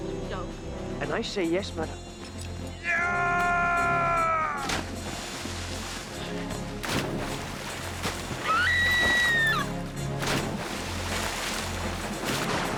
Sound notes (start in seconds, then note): 4.7 splashing; 8.4 Coral screaming; 10.3 splashing